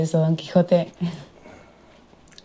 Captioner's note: laughing